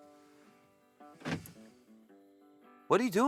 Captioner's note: door locks clicking